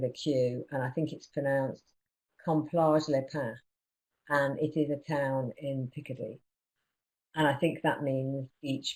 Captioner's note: non-english speech